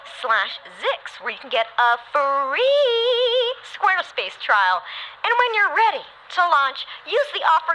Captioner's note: singsong